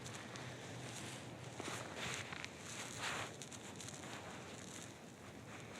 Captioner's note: rustling